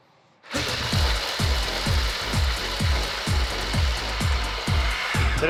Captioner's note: food processor mixing